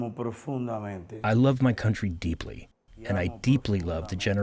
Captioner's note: through translator